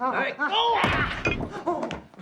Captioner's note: both groaning